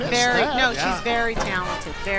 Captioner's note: beeping